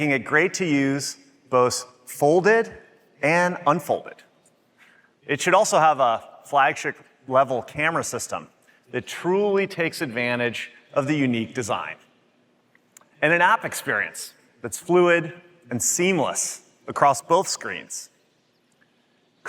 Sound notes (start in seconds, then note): none